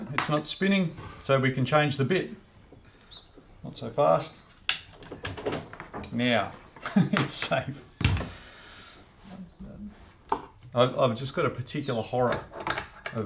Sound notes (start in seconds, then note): 6.8 chuckles